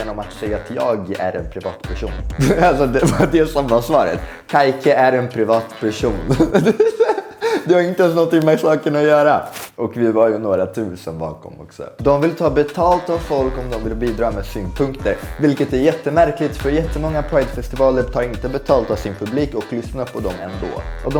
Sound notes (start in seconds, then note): 2.4 laughs